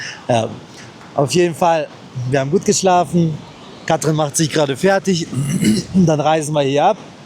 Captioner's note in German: räuspern